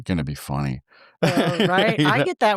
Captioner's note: both laughing